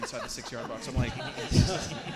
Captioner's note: audience laughing